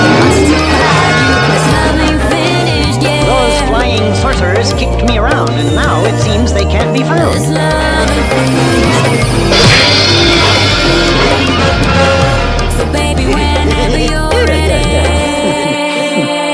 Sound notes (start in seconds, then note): 9.5 smack!; 13.0 Bric & Brac Laugh